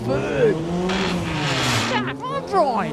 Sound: grinding gears

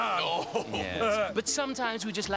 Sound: Jake laughing

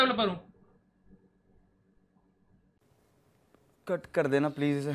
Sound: awkward silence ensues

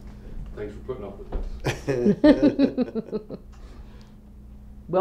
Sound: laughter

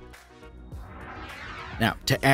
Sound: plane engine roars

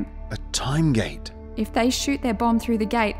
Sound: none

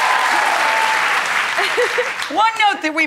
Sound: audience cheering

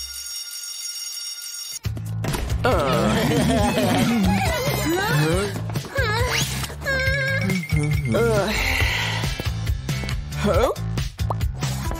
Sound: making happy sounds

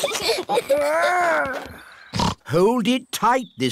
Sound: both giggling; snorts

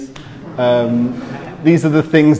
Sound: crowd laughing

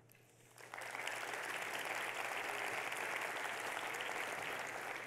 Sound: audience clapping

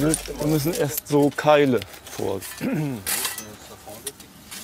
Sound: coughing

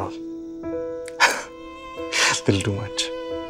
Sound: chuckles

